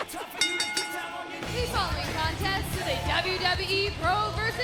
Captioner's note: bell ringing